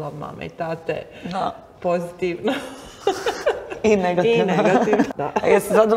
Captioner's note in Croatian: smijeh